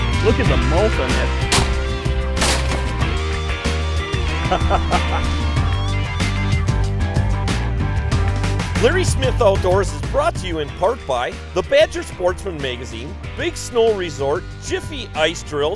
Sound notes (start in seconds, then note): 0.4 voiceover; 1.5 gun shot; 4.2 laughs; 10.8 voiceover